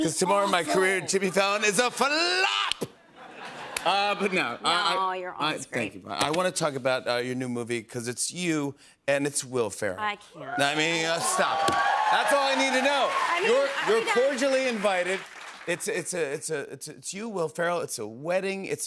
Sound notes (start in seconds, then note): 10.5 cheers and applause